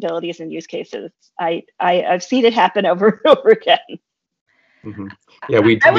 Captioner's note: chuckles